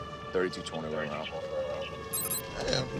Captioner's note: beeping